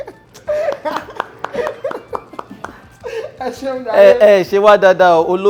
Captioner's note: laughs